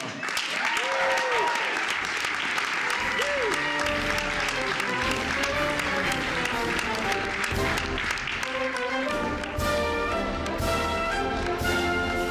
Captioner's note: applause